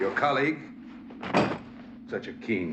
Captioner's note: thud